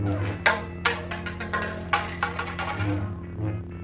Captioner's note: pipe rattles